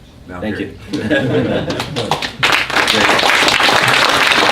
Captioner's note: applause